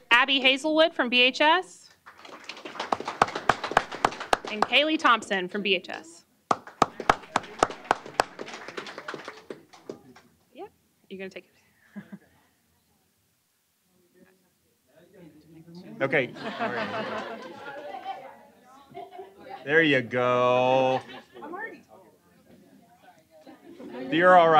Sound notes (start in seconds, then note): 4.6 applause; 6.5 applause; 18.8 laughter